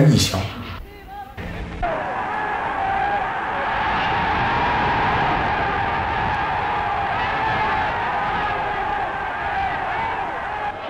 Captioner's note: cheers